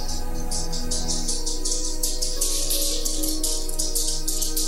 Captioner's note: Buddy skittering